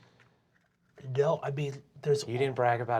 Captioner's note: nasally